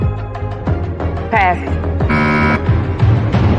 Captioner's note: buzzer sounds